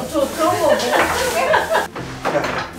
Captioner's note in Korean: 웃음